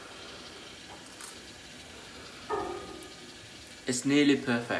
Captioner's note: tasting sound